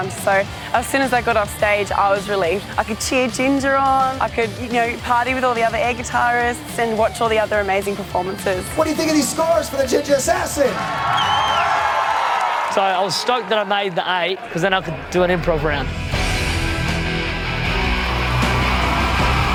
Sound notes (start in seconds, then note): 10.3 crowd cheers and applauds; 16.2 dramatic rock music